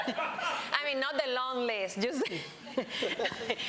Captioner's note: laughter; laughs; laughter